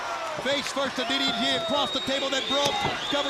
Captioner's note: crowd cheering